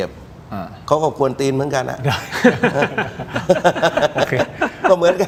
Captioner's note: laughs